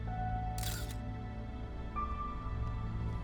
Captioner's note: camera shutter clicks; suspenseful music